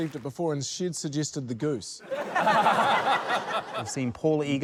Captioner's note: laughter